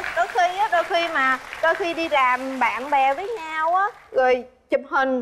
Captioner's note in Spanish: Aplaudir